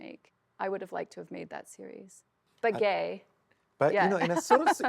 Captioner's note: laughs